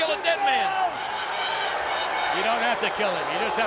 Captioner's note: audience cheers